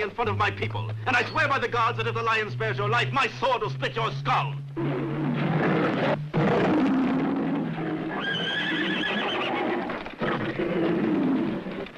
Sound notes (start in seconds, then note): 4.7 lion roaring; 7.2 horses neighing